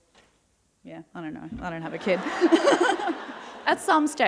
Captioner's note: laughter